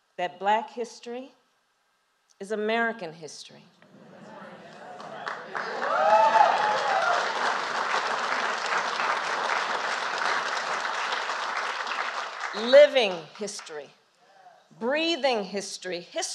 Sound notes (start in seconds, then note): 4.6 applause